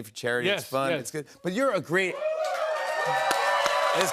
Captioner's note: cheers and applause